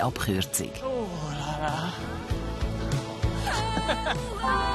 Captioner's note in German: Stöhnend